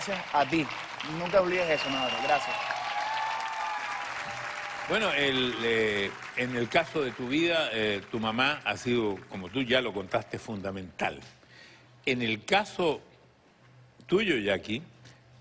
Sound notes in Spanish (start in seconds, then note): 4.6 Aplausos; 4.6 Exclamaciones